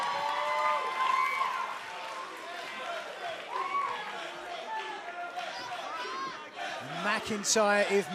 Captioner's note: cheers and applause